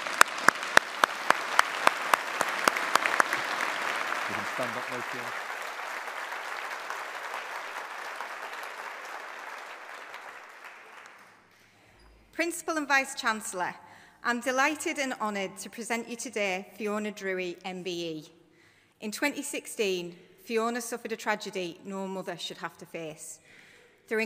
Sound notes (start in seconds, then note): 0.1 audience applauding; 5.8 audience applauding